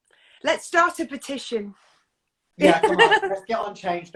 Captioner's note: laughs